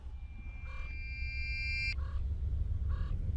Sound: reversed Ding

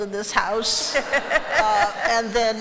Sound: laughter

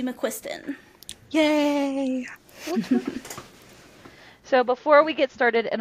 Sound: laughter

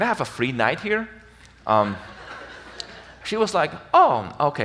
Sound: audience laughs

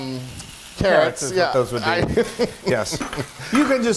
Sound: laugh

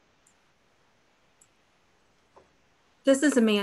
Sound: clicking

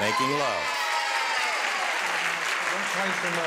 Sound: applause and cheering

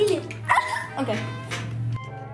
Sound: squeals

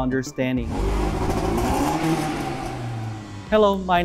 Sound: sound of car revving its engine

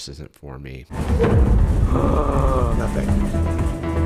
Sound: gasps; suspenseful music

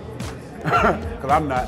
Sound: laughs

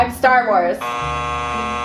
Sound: buzzer buzzing

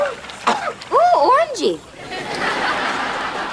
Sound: coughing

